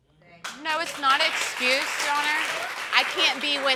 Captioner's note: audience applauds